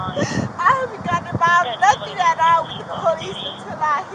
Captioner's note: radio chatter